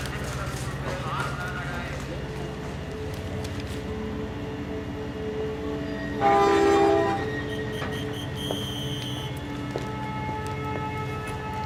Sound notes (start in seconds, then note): 5.8 conductor whistle; 5.8 train horn